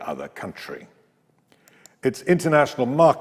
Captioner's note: mouse clicks